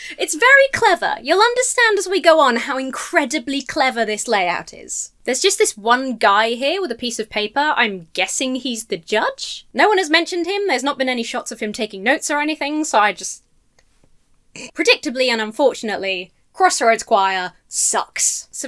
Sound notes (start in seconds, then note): 14.6 snorts